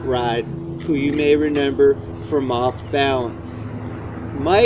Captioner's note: car drives